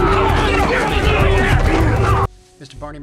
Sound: brawlers shouting, grunting

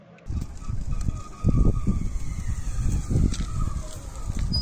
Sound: tires screeching

